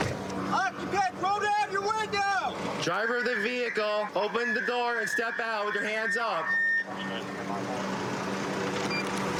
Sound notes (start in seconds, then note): 2.8 using loudspeaker